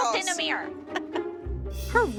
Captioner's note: laughs